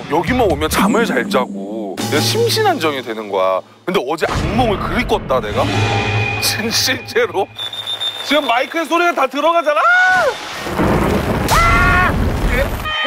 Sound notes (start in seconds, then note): 7.5 drip; 9.8 rain; 10.5 thunder